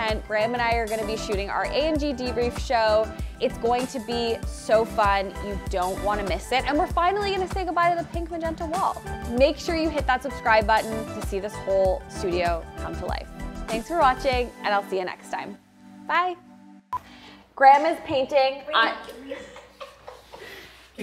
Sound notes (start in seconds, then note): 16.6 recorder beeps; 19.1 team member laughing